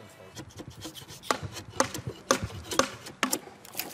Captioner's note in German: Hämmern